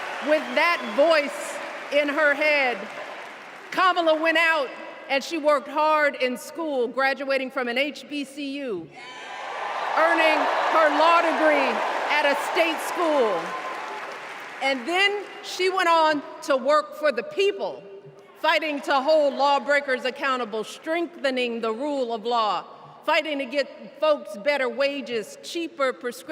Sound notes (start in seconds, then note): 14.7 cheers and applause